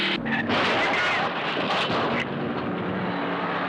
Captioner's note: car thudding